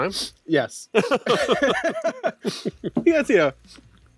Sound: both laughing

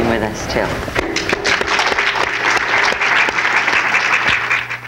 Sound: audience clapping

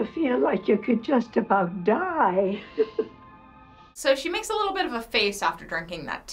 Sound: chuckles

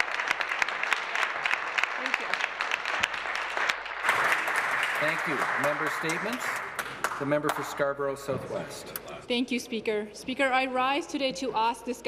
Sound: applause

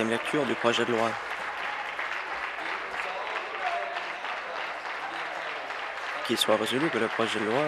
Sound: applause

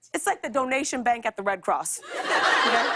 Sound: laughter

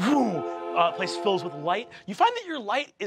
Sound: mimics whooshing

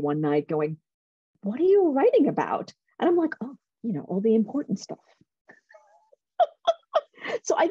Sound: laughter

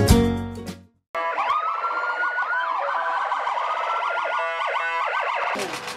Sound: sirens

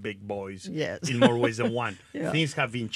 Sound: chuckles

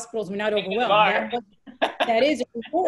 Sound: laughs

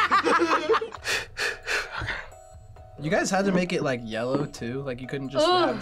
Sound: both laugh; takes deep breaths

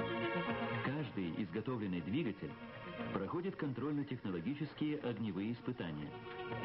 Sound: static

